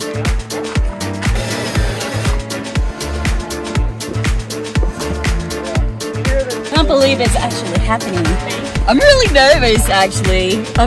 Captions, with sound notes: (drill buzzing) - I can't believe it's actually happening. I'm really nervous actually.